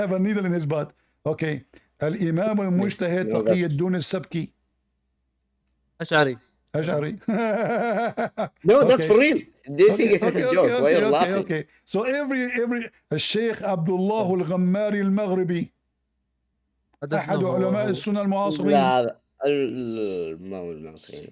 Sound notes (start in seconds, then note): 7.1 Ketawa